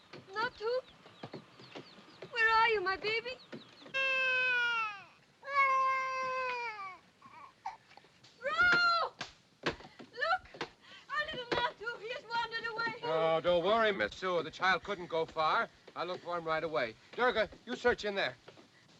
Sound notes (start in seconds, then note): 5.4 child cries